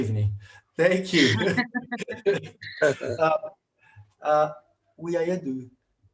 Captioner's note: laugh